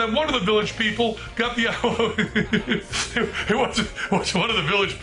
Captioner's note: laughs